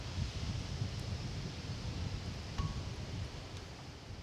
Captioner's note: wind rustling